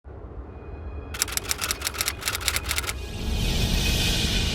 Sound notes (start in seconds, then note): 1.1 typing